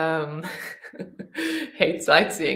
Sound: laughing

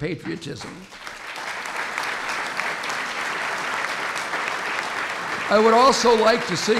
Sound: applause

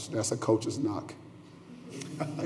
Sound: laughter

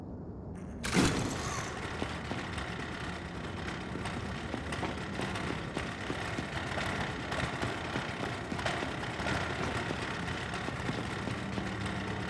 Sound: gunfire

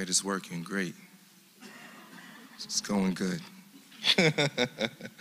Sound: laugh

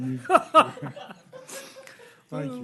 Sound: laughter

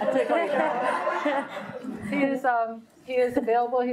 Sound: audience laughing

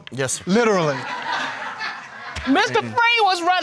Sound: laughing in audience

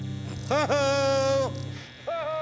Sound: electricity buzzing

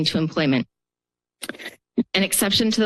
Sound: pause

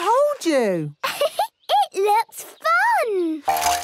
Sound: giggles

